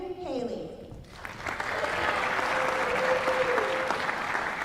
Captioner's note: applause